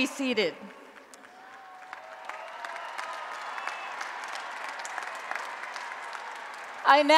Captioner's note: applause and Cheering